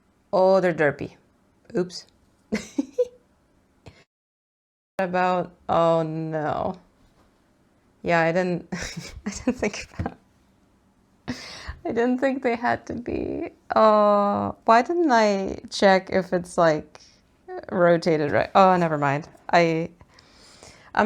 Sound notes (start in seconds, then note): 2.5 giggles; 8.7 laughs